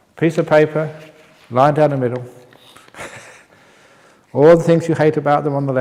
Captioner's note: chuckle